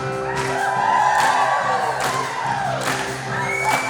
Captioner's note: cheering